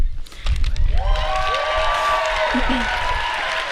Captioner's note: applause